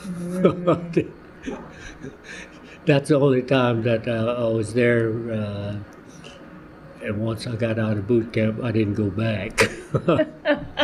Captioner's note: laughter